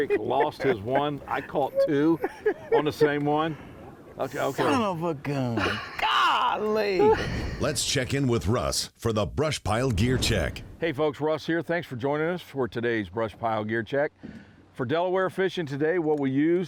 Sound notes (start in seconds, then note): 7.6 voiceover